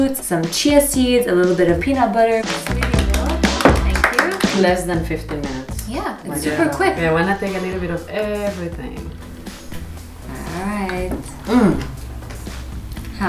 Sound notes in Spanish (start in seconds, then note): 2.6 aplausos